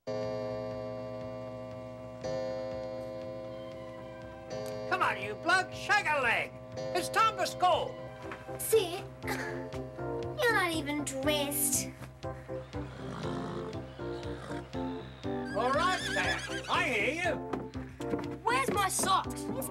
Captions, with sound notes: (clock chiming) - Come on you blokes, shake a leg! It's time for school! - Sid, you're not even dressed. (upbeat music) (horse grunting) (horse neighs) - All right, Sam, I hear you. - Where's my socks?